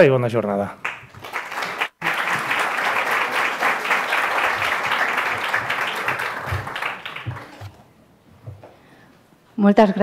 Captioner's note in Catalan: Aplaudiments